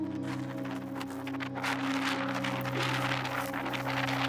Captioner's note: tents rustling